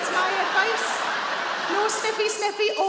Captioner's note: audience laughing